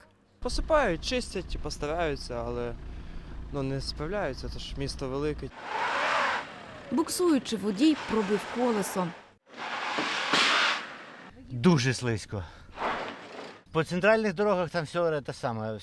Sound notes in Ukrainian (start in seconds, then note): 5.6 машина буксує; 8.9 гуде машина